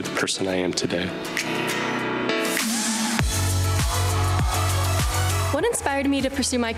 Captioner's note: upbeat music; crowd cheering